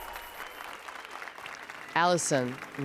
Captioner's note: applause and cheers